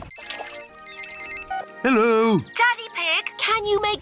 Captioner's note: phone rings